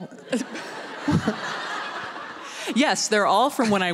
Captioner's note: laughter